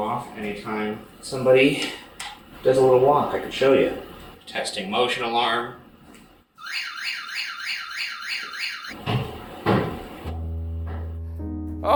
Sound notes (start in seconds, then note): 6.6 alarm blares; 9.0 footsteps pounding